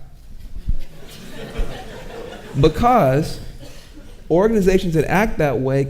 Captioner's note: audience chuckling